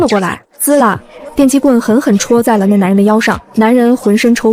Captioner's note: zzzzz